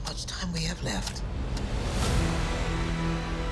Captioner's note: clock ticking